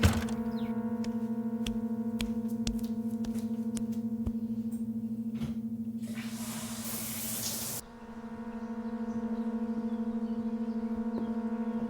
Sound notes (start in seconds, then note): 6.8 shower water pattering; 8.5 dramatic music